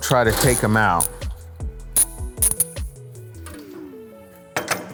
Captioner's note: wrench cranking